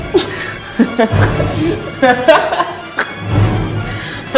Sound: Nicole laughs

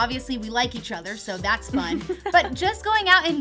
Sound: laughter

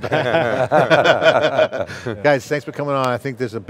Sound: laughing

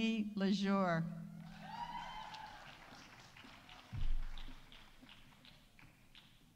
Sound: audience cheering; audience applauding

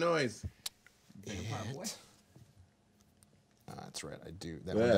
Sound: group murmuring

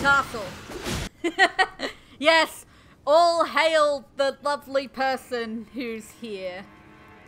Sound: laughter

